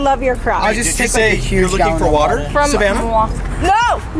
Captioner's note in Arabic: ثرثرة جماعية